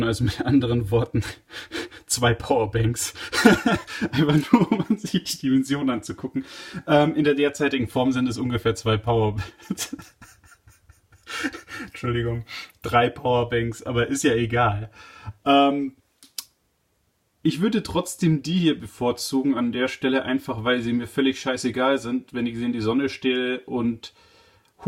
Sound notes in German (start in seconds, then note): 9.3 lachend